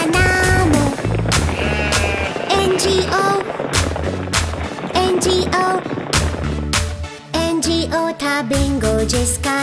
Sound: clap

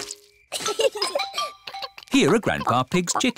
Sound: both giggle

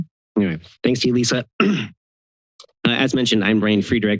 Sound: clears throat

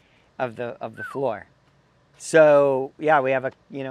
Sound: whistling

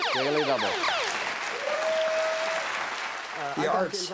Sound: audience claps

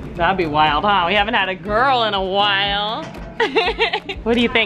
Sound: laughs

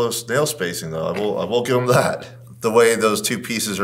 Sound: chuckles

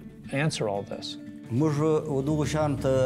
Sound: speaking Pashto

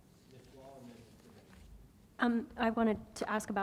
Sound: board member faintly speaking

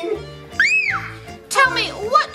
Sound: shrieking

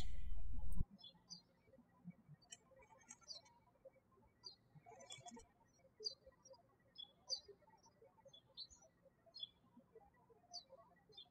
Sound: birds chirping

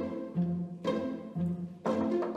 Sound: knuckles rapping

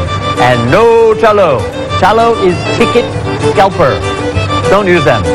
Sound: speaking indonesian

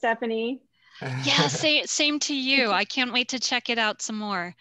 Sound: chuckles

